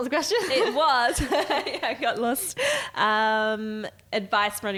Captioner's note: laughing